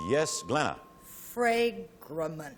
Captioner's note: ping